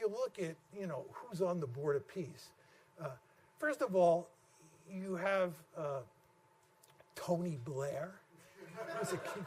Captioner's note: laughter